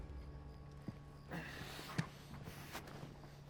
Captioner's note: grunting